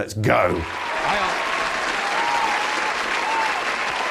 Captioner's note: audience cheering